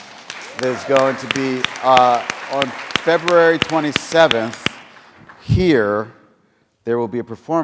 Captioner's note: applause